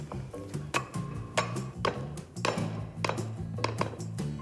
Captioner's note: pestle clanging